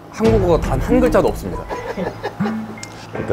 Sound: laughing

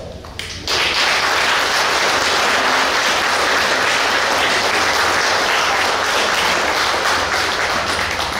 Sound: clapping

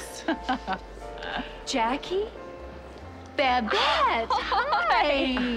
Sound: chuckles

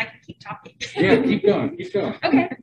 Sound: laughing

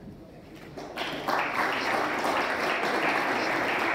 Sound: applause

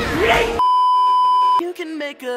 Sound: beeeeeep

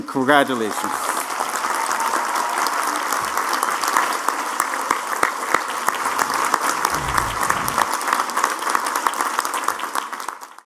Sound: applause

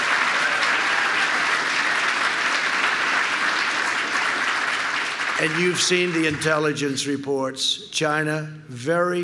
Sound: applause

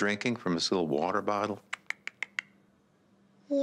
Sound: clicks tongue

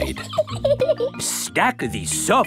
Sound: laughs

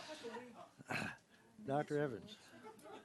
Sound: laughing

